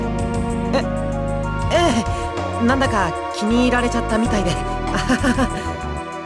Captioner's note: awkward laugh